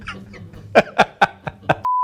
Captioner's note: laughing